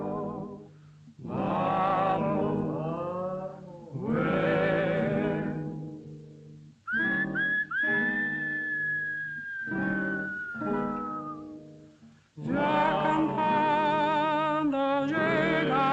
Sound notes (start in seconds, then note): 6.8 guitar player whistling; 12.8 evocative gauchos song